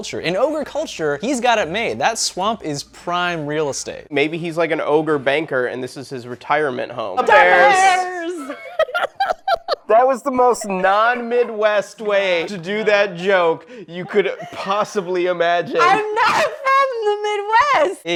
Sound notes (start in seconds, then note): 8.8 laughing